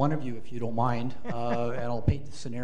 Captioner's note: panelist laughs